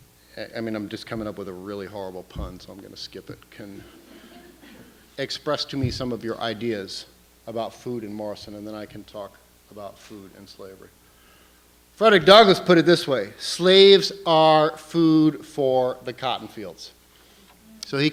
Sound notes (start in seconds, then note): 3.8 laughter